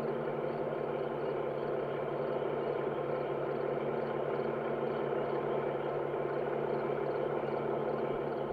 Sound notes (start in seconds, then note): 2.4 crickets chirping